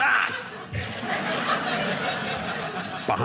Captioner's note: audience laughing